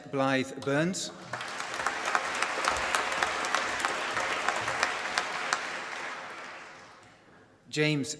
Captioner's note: applause